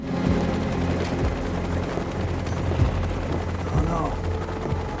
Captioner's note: helicopter whirring